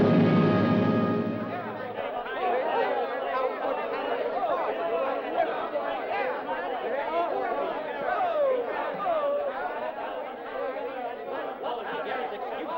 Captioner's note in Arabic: موسيقى ملكية درامية; ثرثرة ساخنة غير واضحة